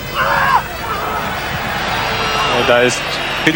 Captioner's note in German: schreien